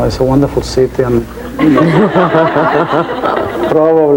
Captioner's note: laughing